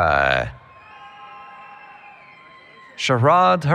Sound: cheering

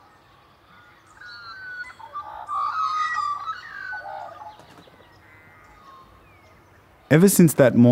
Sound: magpies' warbling continues

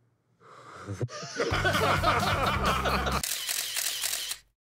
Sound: laughter

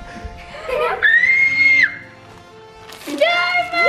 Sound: screams

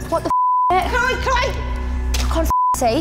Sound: objects clanking; beep; yells; beep

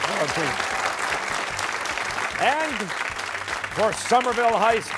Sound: applause

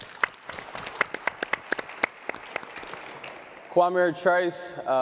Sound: audience clapping

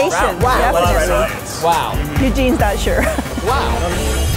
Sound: chorus of wows

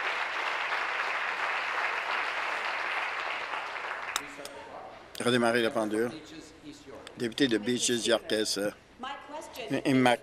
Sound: applause

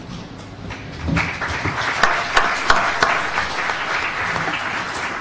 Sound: applause

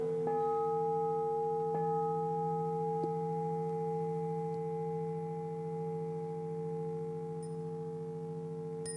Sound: bell rings

